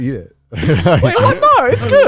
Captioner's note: laughing